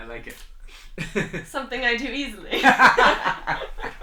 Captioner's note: laughter